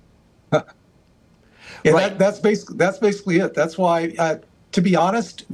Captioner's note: laughs